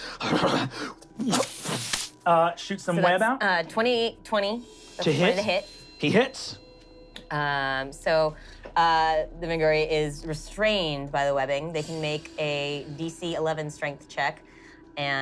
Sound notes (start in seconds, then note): 0.3 shivering; 1.6 web flinging